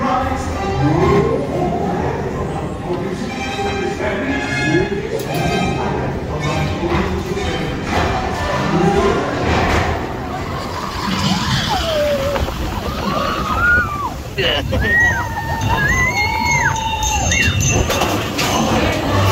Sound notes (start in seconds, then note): 10.2 people screaming; 13.5 sounds of a roller coaster; 18.7 dwarfs sing